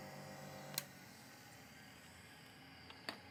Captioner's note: whirring stops